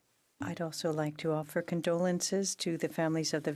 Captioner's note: speaking French